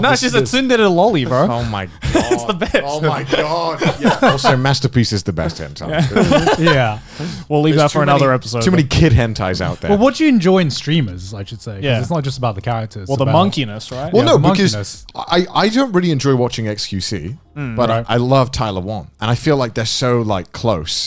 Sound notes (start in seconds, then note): 5.8 laughs